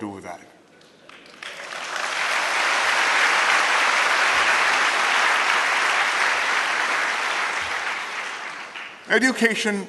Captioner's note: applause